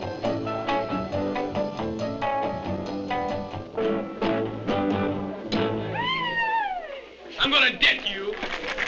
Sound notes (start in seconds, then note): 5.9 yelling